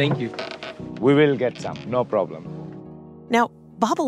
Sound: the boat creaks underfoot as the two talk

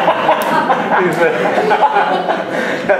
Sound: laughter

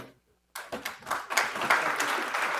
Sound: audience applauding

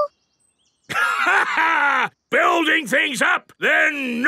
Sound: laughs

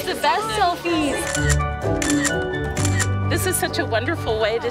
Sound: three camera shutter sounds

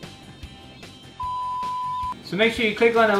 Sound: beep

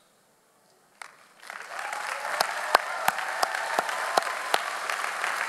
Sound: audience applauds

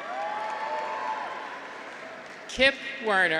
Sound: graduates cheer

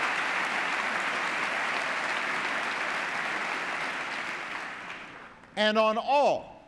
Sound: applause

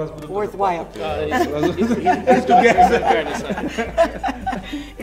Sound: people laughing

